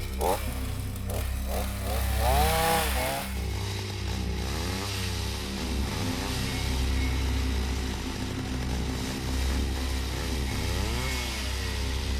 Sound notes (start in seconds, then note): 0.1 ominous music; 3.8 chainsaw whirs; 3.8 ominous music